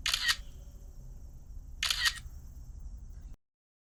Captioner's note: camera clicking